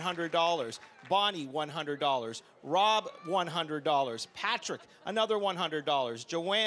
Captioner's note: applause